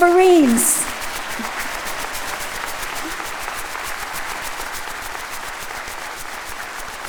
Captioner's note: audience applauding; pom-poms rustling